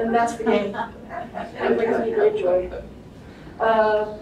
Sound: audience laughter

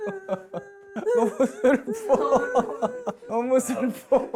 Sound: sobbing

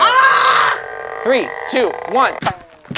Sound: screams; gadget creaks

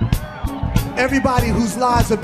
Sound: audience cheering

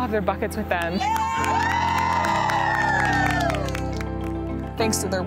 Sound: applauding; cheering

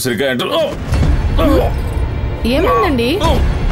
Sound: groans

